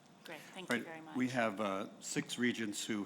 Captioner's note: voiceover